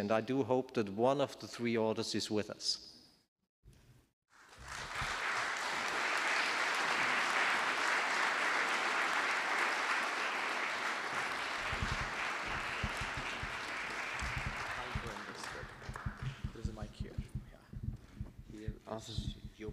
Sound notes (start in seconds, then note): 6.7 applause